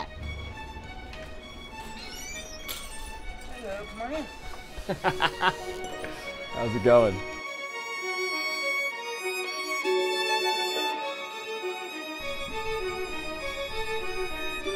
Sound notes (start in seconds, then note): 0.3 intense music; 4.8 laughs; 7.8 intense music